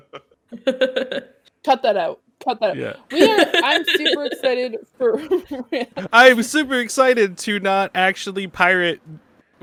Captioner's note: laughs; laughs